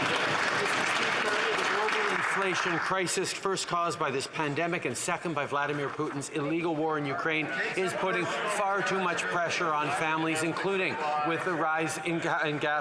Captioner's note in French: voix de l'interprète